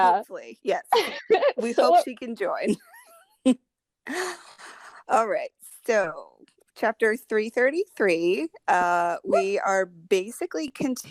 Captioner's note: deep breath